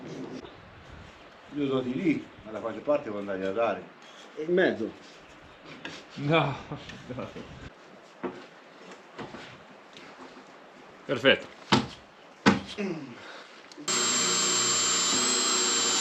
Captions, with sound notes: Do you want to cut it there? Or where do you want to cut it? In the middle. *laughter*. perfect.